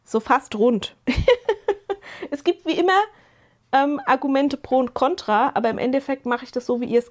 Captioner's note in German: gelächter